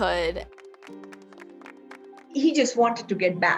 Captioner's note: players clapping